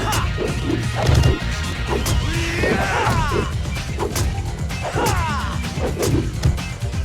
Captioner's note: blows thudding; upbeat rock music; fighters grunting